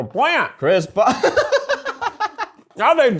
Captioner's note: laughs